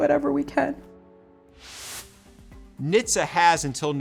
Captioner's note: graphic whooshing